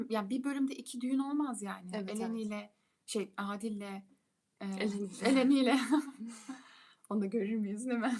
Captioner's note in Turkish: kahkaha